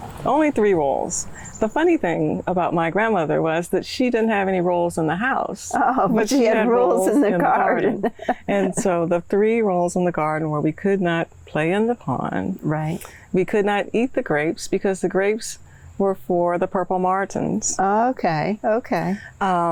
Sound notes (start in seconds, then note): 9.9 laughs